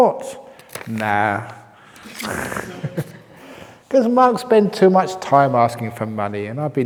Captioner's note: chuckle